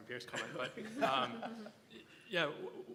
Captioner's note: laugh